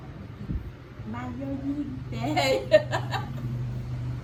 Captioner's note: laugh